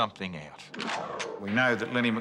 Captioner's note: gun cocks